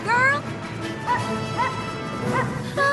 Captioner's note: barking